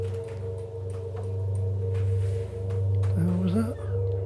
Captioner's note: rattling